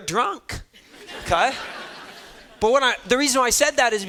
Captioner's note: students laughing